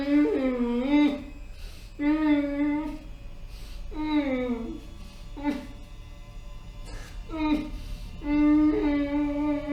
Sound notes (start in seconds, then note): 2.0 pleading hums